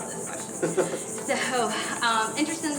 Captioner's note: laughs